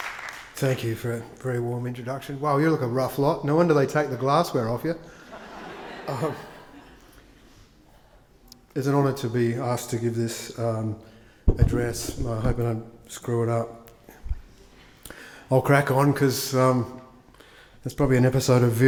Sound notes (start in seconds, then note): 5.1 attendees laugh; 6.0 Tim chuckles